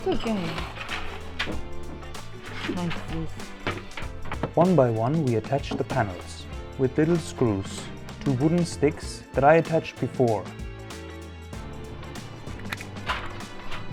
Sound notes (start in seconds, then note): 0.1 crunch